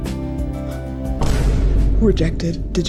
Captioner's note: boom